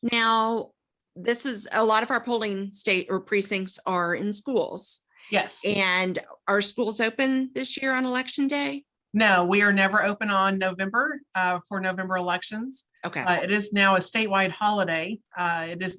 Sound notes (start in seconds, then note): none